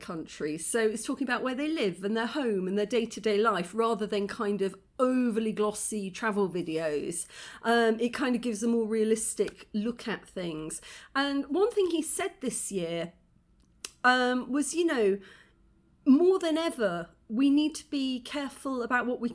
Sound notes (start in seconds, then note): none